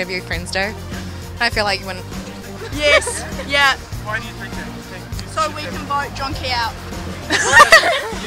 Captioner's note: laughter